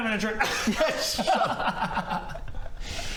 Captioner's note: laughs